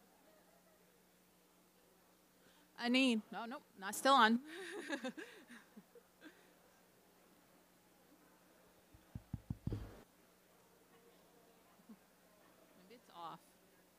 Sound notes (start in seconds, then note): 2.7 speaking Anishinaabe; 3.6 in English